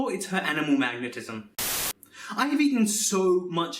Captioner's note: Static